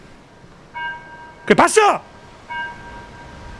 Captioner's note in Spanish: Pitido